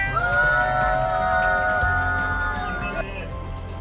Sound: group cheers

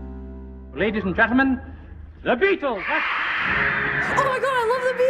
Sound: audience cheering

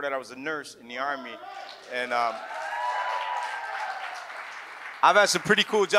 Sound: audience cheers

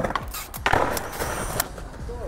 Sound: skateboard rolling; skateboard clattering

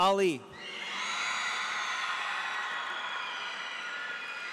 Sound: audience cheers

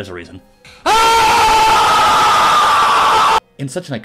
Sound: Keemstar Screaming

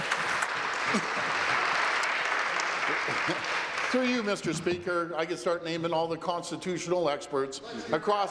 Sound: applause

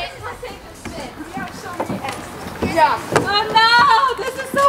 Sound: whooping

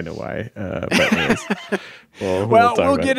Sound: laughing

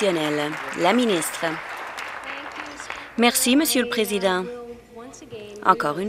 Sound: some Applause

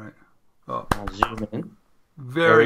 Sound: claps

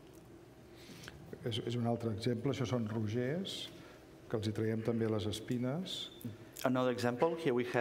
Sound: speaking catalan

